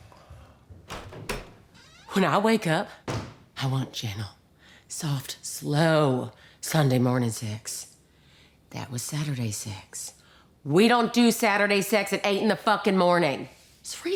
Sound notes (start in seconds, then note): 0.2 footsteps approaching; 3.0 door banging